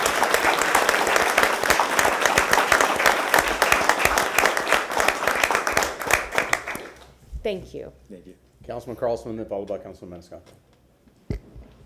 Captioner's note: applause